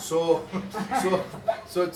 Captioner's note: giggles